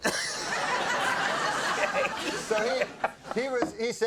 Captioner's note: audience laughing